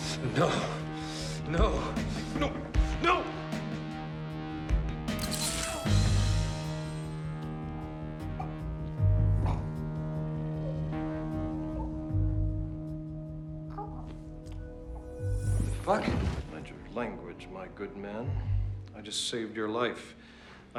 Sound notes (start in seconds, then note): 5.1 squirt sounds; 9.4 softly grunting